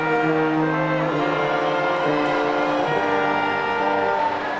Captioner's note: audience cheering